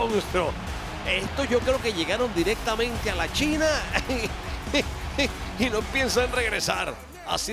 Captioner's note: laugh